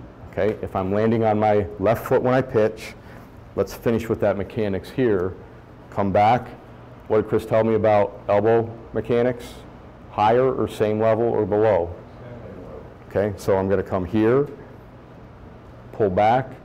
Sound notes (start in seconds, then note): 12.4 voiceover